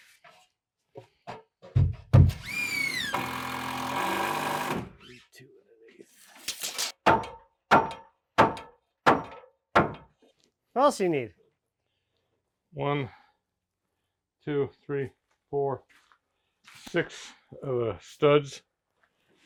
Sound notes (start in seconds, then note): 2.4 power tool whizzing; 7.4 hammer knocking